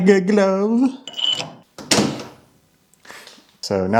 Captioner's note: parts thudding